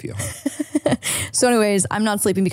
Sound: laughs

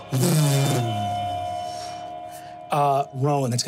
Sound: mimics magical reverberations

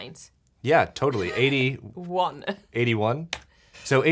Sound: laughing

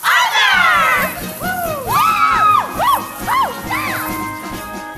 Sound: singers cheering

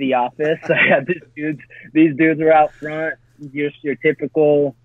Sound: laughs

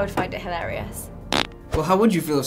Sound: fart

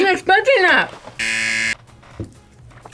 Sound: buzzer rings

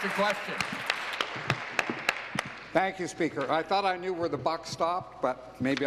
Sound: applause

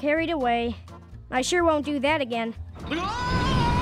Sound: screaming

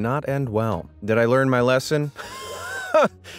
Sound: laughs

